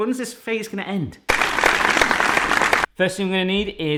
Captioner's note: applauding